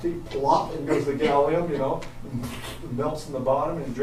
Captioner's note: splat